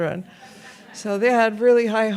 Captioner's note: audience laughs